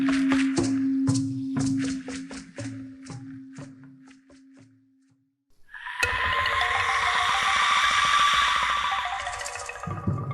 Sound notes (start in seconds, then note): 0.0 tribal drums beat builds; 5.8 loud screech